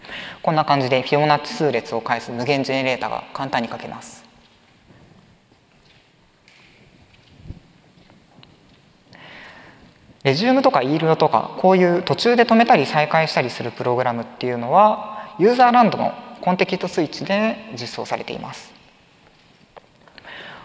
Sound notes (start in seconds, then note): 4.7 silence